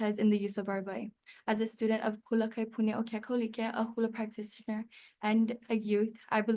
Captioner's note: speaks Hawaiian